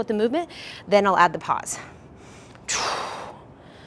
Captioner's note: exhales loudly